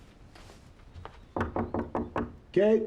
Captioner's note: knocking